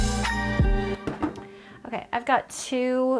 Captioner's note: table banging